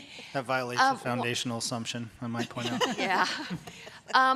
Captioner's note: chuckles